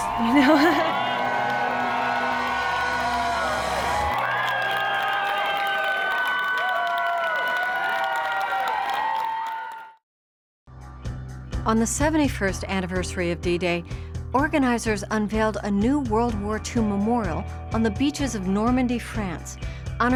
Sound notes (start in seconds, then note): 0.0 laugh; 1.5 cheering